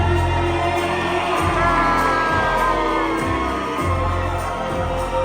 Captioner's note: crowd cheering; magical music